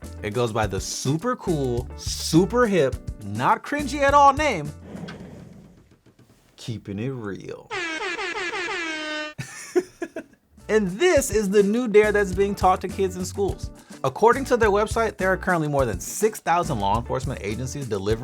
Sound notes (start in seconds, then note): 7.7 air horns blaring; 8.5 laughing